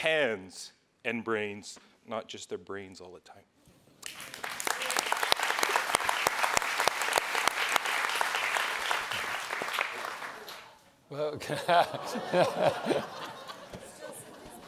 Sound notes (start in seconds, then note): 4.0 audience applauds; 11.4 audience laughs